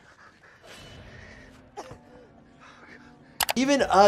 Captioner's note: Sue Storm coughs